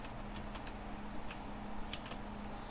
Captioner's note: typing